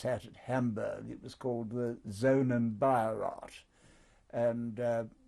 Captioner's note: german